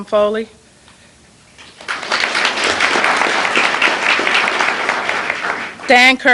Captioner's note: applause